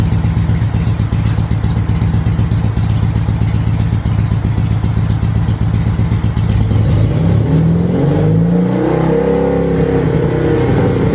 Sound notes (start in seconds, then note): 6.5 engine revs up